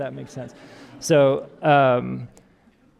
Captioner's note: audience laughing